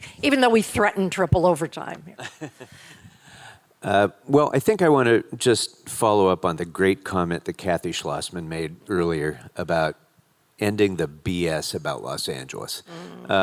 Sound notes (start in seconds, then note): 2.2 laughing